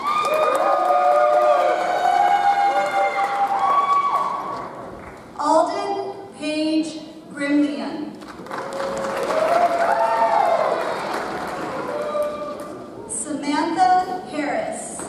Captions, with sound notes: (audience cheers) Aldyn Paige Gremillion. (audience cheers) (audience applauds) Samantha Harris.